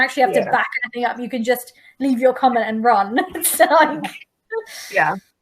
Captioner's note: laughs